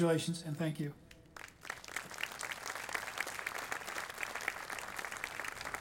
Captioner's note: audience applauding